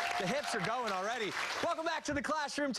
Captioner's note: cheers and applause